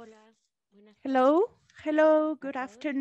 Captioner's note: speaking in a foreign language